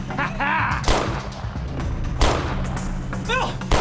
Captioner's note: fires gunshots; gunshots continue